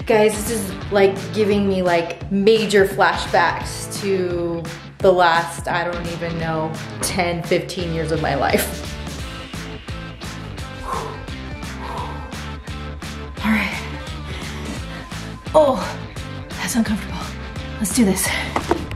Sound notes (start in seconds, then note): 9.2 upbeat music; 9.9 gasping